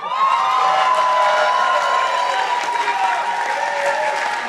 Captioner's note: participants applauding